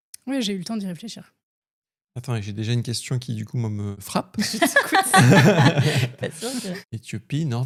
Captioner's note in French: rires